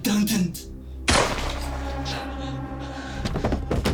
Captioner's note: dramatic music; gun bangs; body thuds